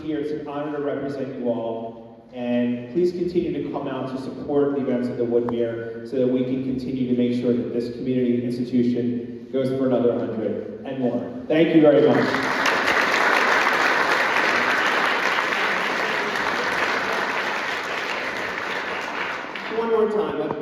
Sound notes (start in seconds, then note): 14.4 applause